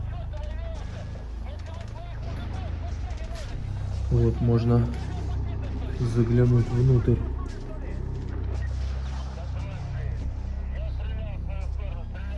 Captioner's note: soldiers talking